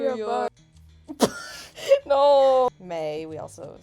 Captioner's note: wheeze